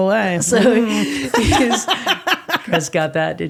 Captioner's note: laughing